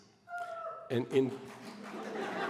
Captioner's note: applause; laughter